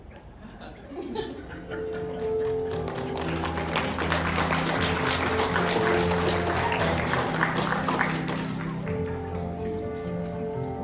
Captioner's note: laughter and Applause